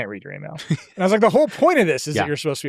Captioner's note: laughs